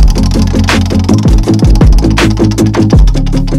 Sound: wheel spins

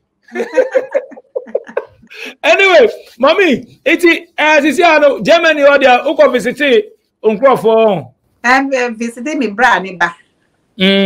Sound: laughs

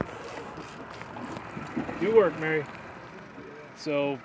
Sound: reel cranking

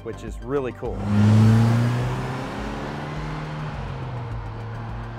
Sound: engine revving

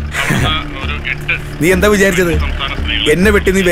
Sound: wireless sound

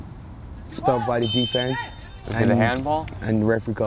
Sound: whistle blows

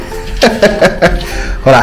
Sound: laughs

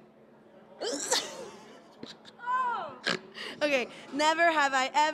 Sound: Risas

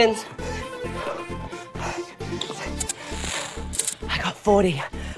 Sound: gasping

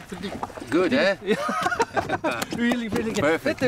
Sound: laughs

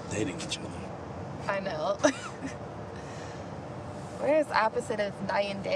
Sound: laughing

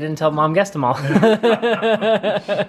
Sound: laughter

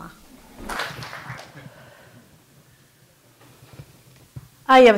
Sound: audience clapping

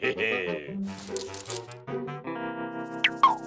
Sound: laughs; keys jingle

